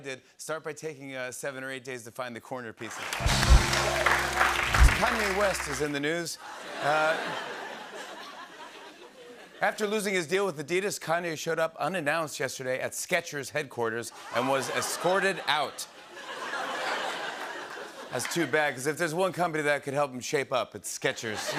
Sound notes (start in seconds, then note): 6.4 laughter; 16.1 laughter